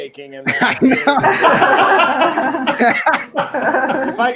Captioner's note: participants laughing